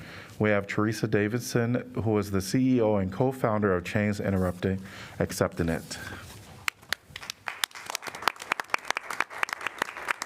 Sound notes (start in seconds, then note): 7.1 applause